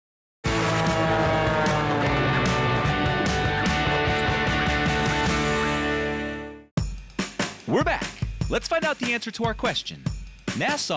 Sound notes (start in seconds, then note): 0.4 upbeat guitar; 0.5 airplane engine